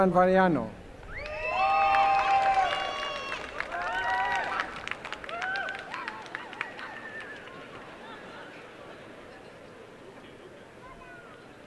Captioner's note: applause and cheering